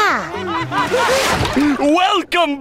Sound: laughing

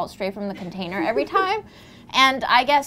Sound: woman laughs

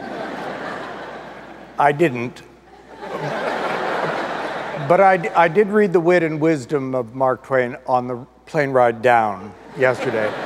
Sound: audience laughter; audience laughter

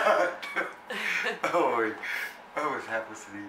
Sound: laughter

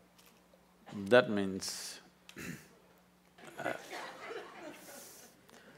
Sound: few laugh

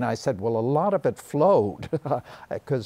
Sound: chuckles

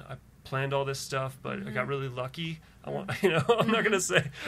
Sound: laughs

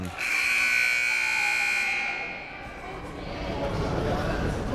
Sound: timer buzzes

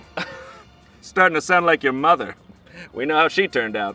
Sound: chuckles

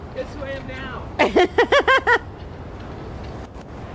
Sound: laughs

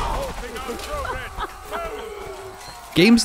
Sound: shouting; cackling

